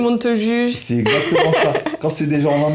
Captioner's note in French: Rires